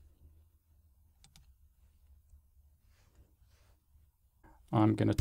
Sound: mouse clicking

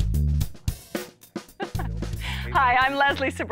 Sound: chuckles

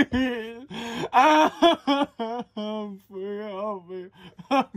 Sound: man crying

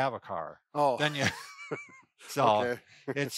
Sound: chuckles

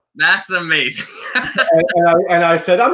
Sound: laughs

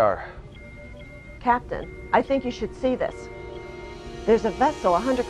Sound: alarm sound

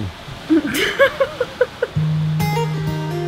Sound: laughs; lighthearted guitar music

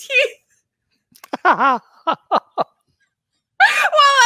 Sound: both laugh

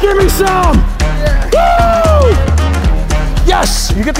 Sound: squeals

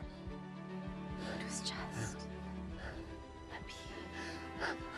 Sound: whispering

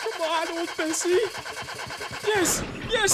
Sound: car starts

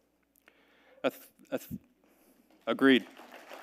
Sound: audience member murmuring; audience clapping

